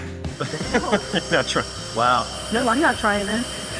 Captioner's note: laughs